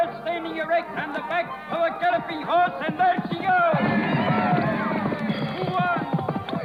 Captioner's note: cheers and applause